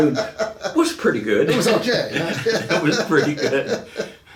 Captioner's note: laughing